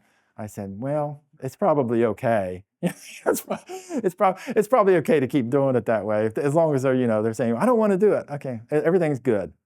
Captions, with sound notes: I said, well, it's probably okay. (laughing) It's probably okay to keep doing it that way. As long as they're, you know, they're saying, I don't want to do it. Okay, everything's good.